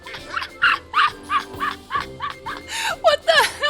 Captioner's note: laughter